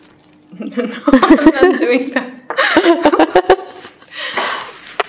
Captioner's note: laughter